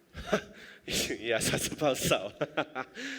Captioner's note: laughing